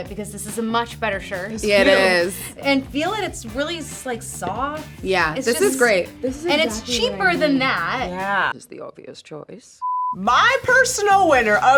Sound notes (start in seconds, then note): 9.6 color bar beeping